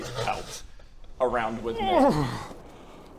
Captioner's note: hrrrrggggh